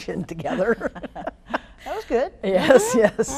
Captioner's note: laughing